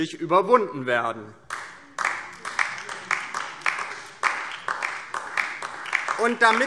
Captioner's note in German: Beifall DIE LINKE